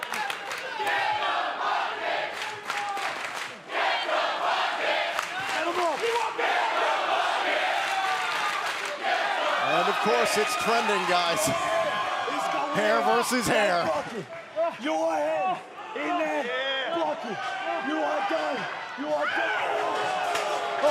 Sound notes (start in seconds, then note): 0.6 fans chanting